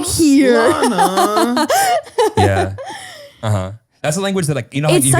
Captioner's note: laughs